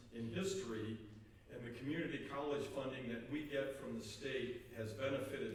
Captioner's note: none